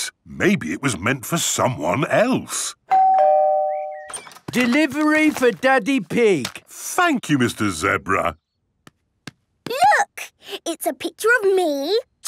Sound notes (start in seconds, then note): 2.9 door bell ringing